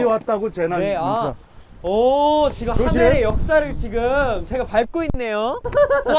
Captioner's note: laughs